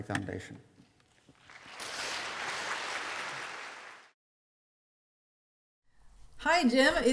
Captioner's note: applause